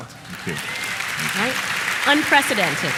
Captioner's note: applause